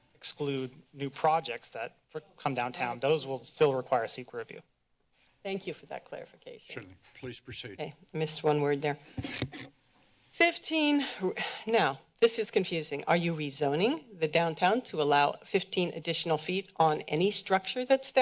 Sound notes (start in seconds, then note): 9.3 mic noise; 10.7 sighs